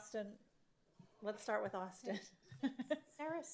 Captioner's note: laughs